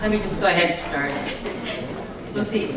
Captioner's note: laughs